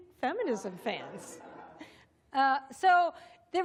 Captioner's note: laughter